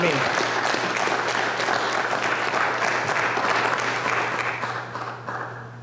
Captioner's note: applause